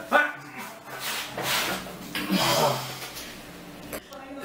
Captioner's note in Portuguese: assoando o nariz; som de vômito